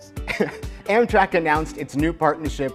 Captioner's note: chuckles